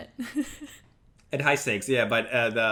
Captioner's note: laughs